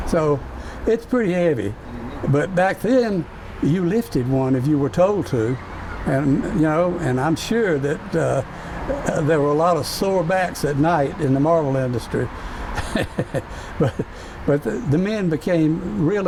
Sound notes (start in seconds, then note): 8.9 chuckles